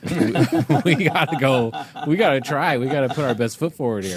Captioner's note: laughing